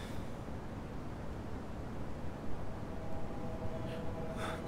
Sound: none

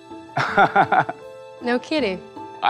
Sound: laughs

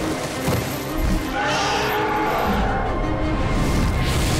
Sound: screeching

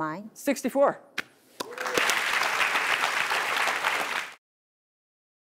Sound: audience applauding

